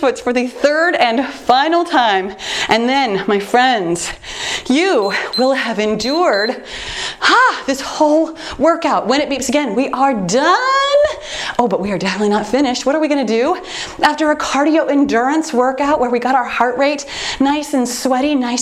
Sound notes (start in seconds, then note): 4.8 timer beeps